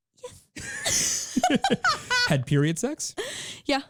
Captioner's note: laughing